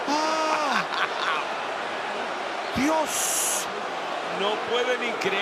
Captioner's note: laugh